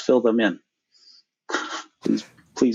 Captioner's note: chuckles